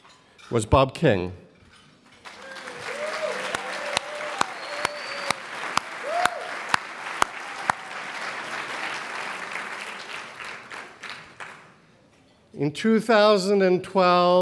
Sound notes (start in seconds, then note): 2.2 applause